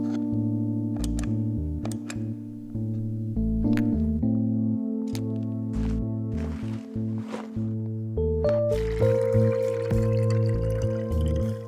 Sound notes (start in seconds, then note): 1.0 light clicking; 8.6 water trickling